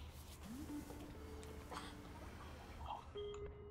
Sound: ringtone ringing

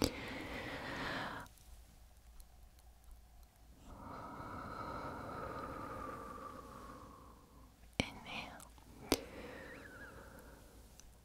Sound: breathe in; breathe out

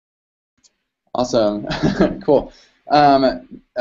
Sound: laughs

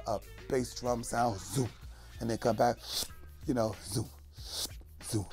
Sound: imitates instrument sounds

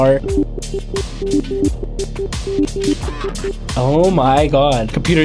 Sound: computer chiming

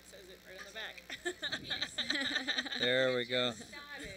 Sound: laughter

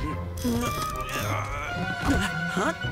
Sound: grunting

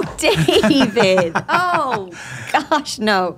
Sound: chuckling

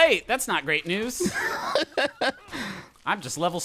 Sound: laughing

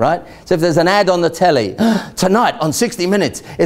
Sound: gasps

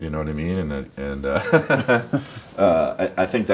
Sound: laughs

